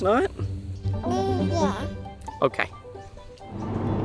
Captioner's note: baby coos